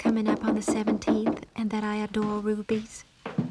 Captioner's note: Arthur knocking